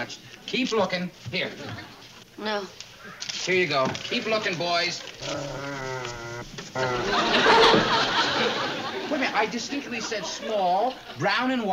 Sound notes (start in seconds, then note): 5.2 dog growls and barks